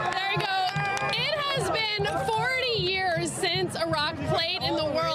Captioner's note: applause